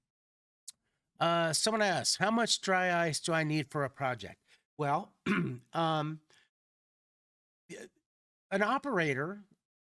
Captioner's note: clears throat